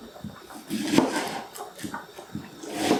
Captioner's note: chop